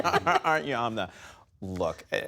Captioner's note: laughter